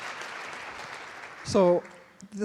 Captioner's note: applause